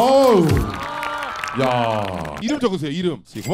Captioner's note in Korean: 짝짝 x10